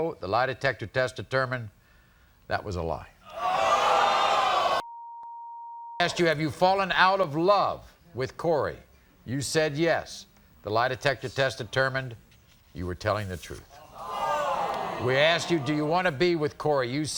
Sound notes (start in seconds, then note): 3.4 audience oohs; 4.8 beep; 13.8 audience oohs